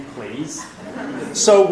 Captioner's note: laughing